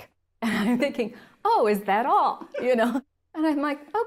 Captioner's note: laugh